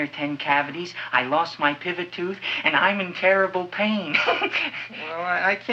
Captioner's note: chuckles